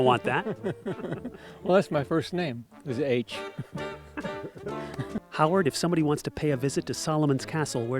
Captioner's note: laughs